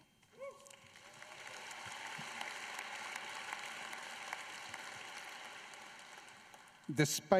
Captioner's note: applause